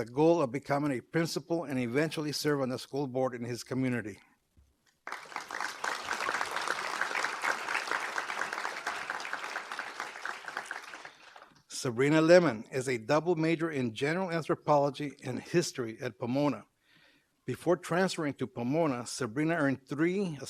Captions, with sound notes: GOAL OF BECOMING A PRINCIPAL AND EVENTUALLY SERVE ON THE SCHOOL BOARD IN HIS COMMUNITY. [APPLAUSE] SABRINA LEMMON IS A DOUBLE MAJOR IN GENERAL ANTHROPOLOGY AND HISTORY AT POMONA. BEFORE TRANSFERRING TO POMONA, SABRINA EARNED THREE